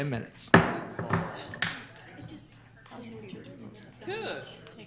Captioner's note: gavel hammering